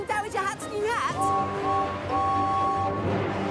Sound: whistles

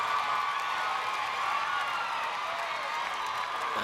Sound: applause

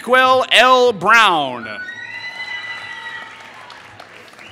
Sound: applause

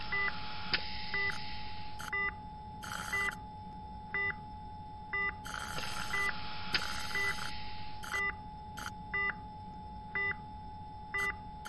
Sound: long Mechanical Tone, Beeping and Suctioning Sound

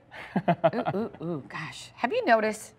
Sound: laughter

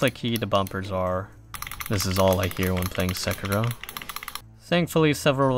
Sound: frantic clicking

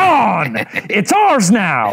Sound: laughs

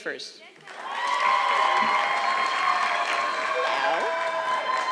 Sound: audience clapping

